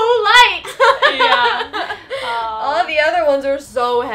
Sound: all laughing

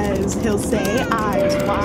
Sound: keyboard and baby crying

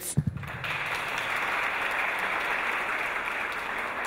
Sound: audience applause

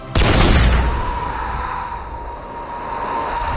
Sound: gunshot; distant screaming

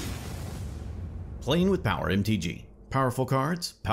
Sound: electric crackles; voiceover

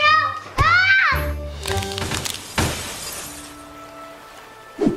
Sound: screams

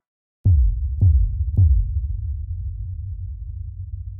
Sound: logo booming

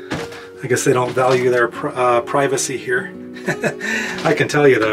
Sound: laughs

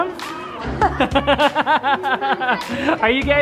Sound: laughter

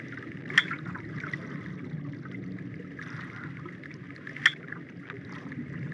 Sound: dinging

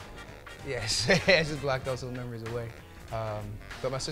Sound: laughs

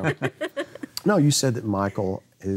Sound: laughing

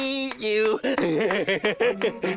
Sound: chortling

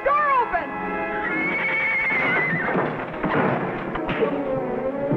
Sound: Champ neighs

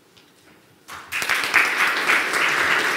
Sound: clapping

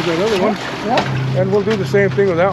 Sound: fish splashing

